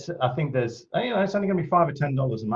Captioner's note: laughs